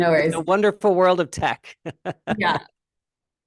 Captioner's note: laughing